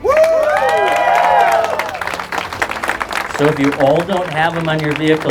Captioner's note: crowd cheers and claps